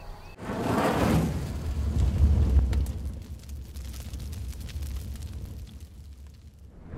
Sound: fire kindling

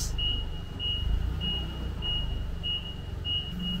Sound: forklift beeping

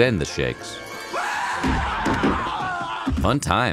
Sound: screaming

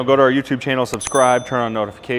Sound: bell ringing

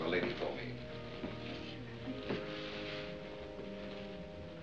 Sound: whispering

